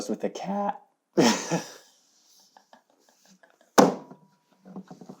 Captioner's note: laughing